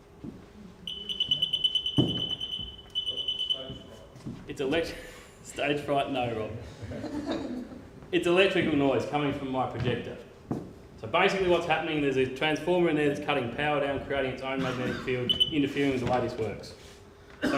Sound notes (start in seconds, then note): 6.7 crowd chuckles